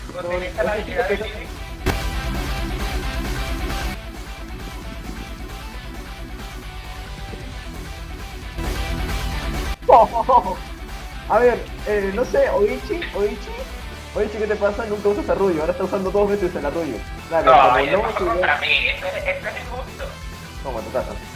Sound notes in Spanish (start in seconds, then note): 9.9 Risas